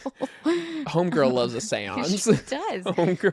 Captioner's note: laughs; laughs